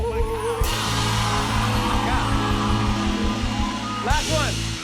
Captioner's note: cheers and applause